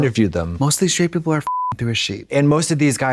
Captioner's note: beep